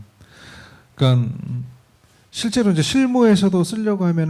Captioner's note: speaking korean